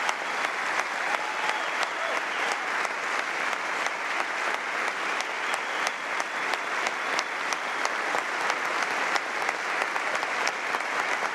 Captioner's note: applause